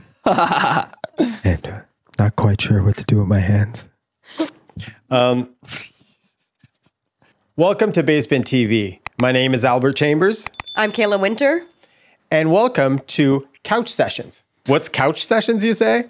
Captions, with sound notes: (laughing) and not quite sure what to do with my hands. (laughing) Welcome to Base Bin TV. My name is Albert Chambers. - I'm Kayla Whynter. - And welcome to Couch Sessions. What's Couch Sessions, you say?